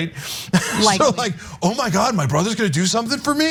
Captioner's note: laugh